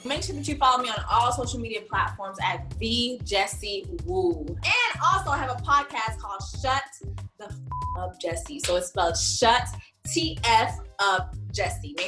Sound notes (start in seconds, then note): 7.7 beep